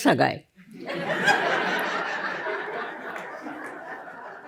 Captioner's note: laughter